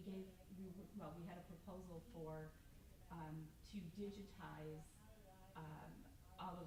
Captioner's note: stammers